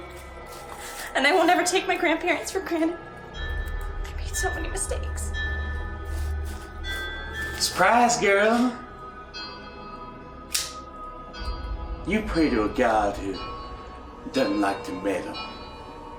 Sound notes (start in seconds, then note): 0.0 footsteps; 6.0 eerie music; 9.1 eerie ambience; 10.5 knife being opened; 11.1 eerie ambience